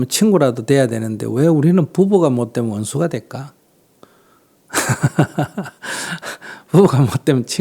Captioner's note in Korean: 웃음